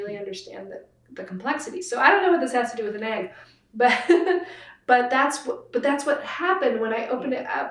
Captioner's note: laughs